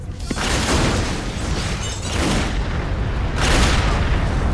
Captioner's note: explosion booming